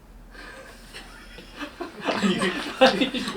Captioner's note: laughs